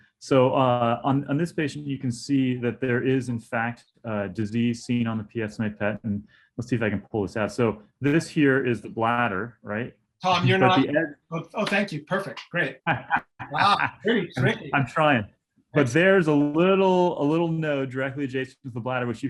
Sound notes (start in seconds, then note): 12.8 laughter